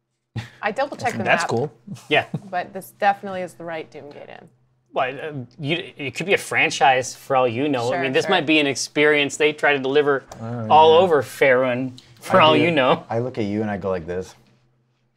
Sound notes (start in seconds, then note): 5.2 stutters